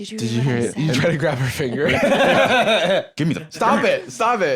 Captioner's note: laughs